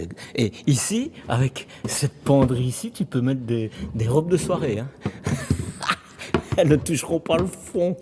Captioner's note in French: rires